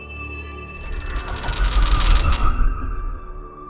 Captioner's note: creaking